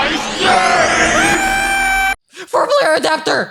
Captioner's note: screaming